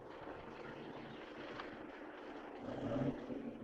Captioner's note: none